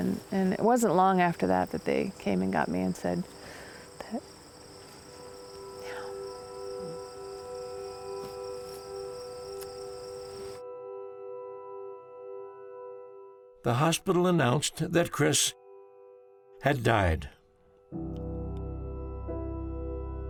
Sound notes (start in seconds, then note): 5.1 whispers